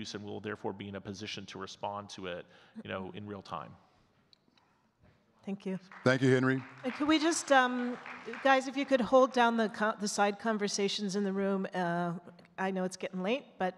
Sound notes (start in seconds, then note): 5.8 audience clapping